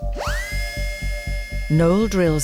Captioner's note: drill machine buzzing